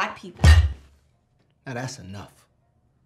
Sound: table stamping

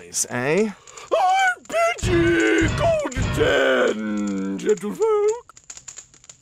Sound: grunts; in a strained posh falsetto

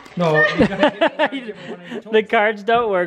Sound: laughing

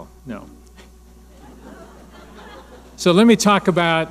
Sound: laughing

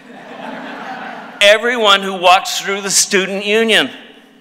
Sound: laughter

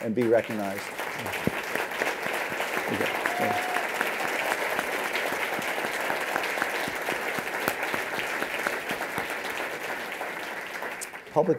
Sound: applause

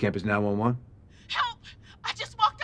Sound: woman on phone

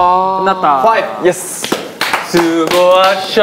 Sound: applauding with bitterness

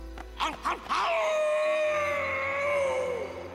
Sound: werewolf howling

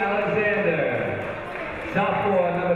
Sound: crowd applauds

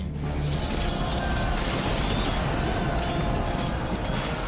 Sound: thunderclap

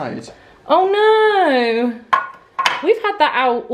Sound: dish clanking

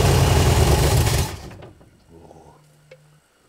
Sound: engine quits

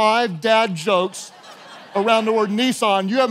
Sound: congregation laughing

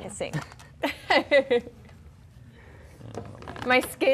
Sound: laughing

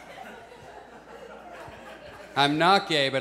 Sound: audience laughs; audience chuckles

